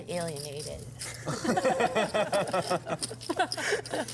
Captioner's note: laugh